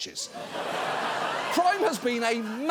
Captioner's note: audience laughing